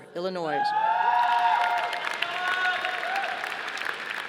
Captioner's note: audience applauding